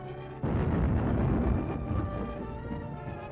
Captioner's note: boom!